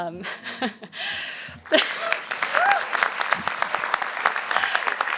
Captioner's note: applause